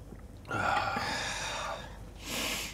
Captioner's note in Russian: выдыхают